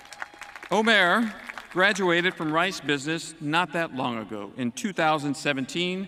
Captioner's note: cheering and applause